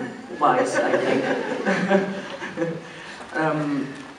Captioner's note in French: rires